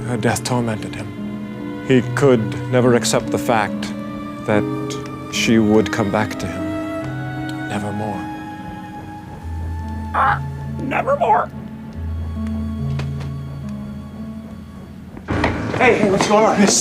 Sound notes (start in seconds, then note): 10.1 squawks